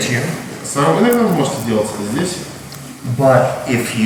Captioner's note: speaking in a foreign language